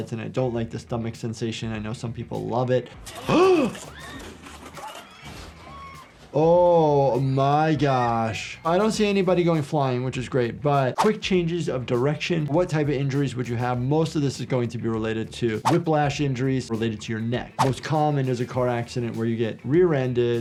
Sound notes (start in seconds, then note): 3.3 gasps; 4.7 riders screaming